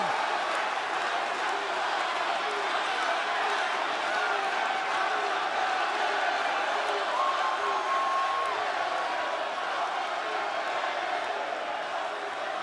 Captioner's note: crowd cheering